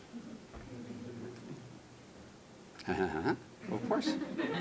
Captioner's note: laughter